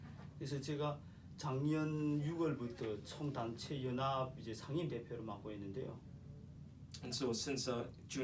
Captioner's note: speaking korean